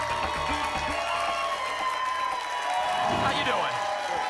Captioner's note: applause and cheering cont